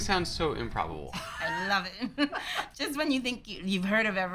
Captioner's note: laughs